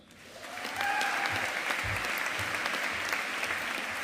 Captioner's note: audience applauding